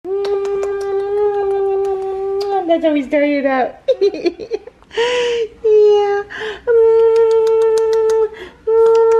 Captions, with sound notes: (kissing) - That's how we start it out. Yeah. (kissing and giggling)